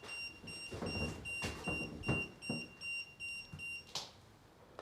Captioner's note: EMF meter beeping